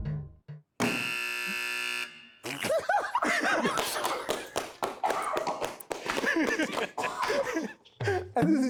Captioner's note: everyone laughs; buzzer Pressed